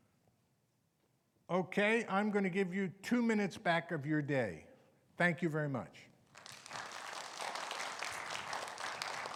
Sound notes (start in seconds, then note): 6.3 audience applauding